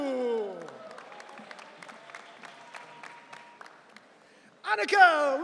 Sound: audience cheering

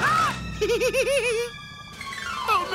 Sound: giggling

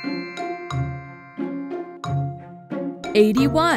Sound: inquisitive music; bells chime

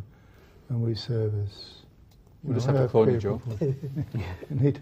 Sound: chuckles

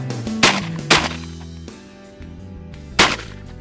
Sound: gun firing

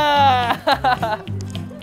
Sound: T-hahaha!

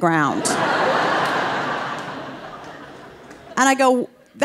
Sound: audience laughing

